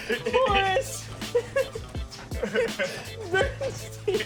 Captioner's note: laughs